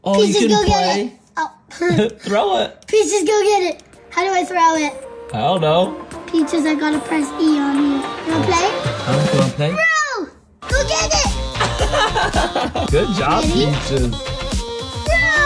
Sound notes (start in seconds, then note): 10.6 upbeat music; 11.6 laughs